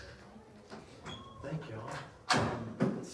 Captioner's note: door squeaks